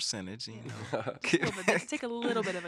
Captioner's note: all laughing